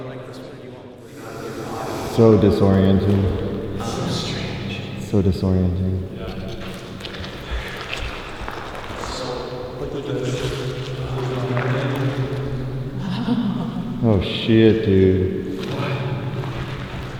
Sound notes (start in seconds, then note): 5.8 echoes; 13.0 laughs